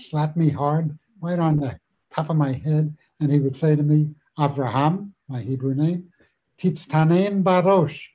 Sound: Hebrew

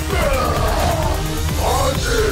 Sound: electricity buzzing; Trog grunts

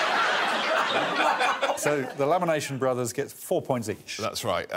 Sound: all laughing; laughs

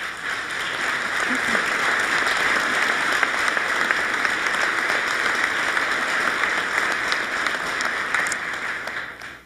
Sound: applause

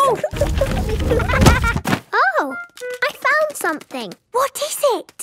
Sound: thuds

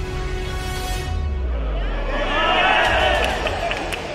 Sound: cheering

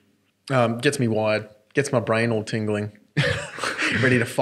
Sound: laughs

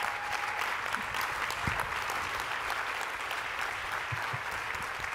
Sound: applause

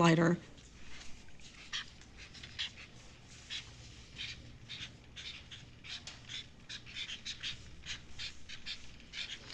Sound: sound of highlighters on paper

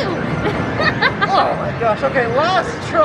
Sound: laughs

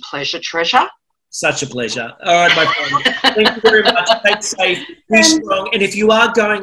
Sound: laughter

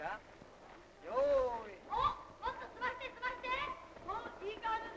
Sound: boys shout teasing and saying "get on with it"

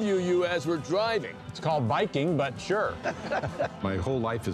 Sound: both laugh

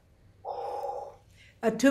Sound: exhales

